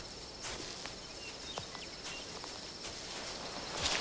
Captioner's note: chirping of birds